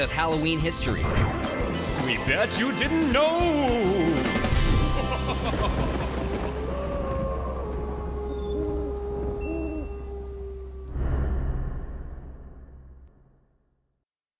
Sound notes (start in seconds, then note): 1.3 ghostly voice; 4.6 laugh, thunder, wolf, owl noises